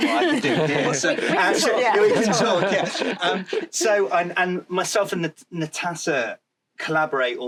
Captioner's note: laughter